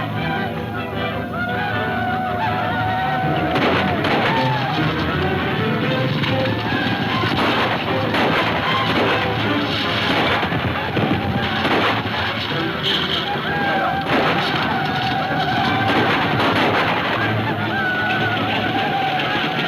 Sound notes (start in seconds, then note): 0.1 tense music; 3.2 gunfire pops; 6.6 gunfire pops